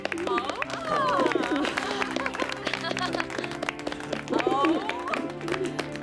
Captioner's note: chuckling; audience murmuring, doves cooing